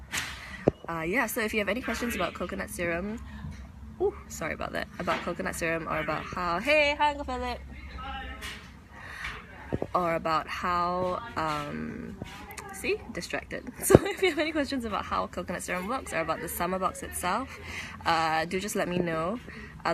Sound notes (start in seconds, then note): 7.2 foreign language; 12.7 laughs